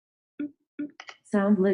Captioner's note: beeping